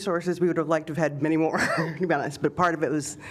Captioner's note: laughter